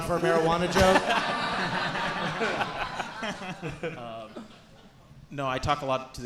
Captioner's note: audience and hosts laughing